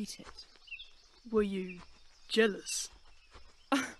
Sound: Regulus huffs out a laugh

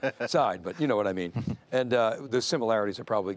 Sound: laughs

